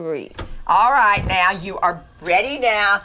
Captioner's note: dial clicks